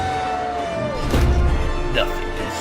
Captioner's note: thud